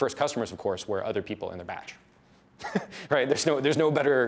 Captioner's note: laughs